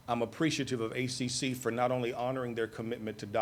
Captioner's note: none